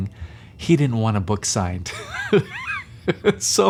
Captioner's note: laughs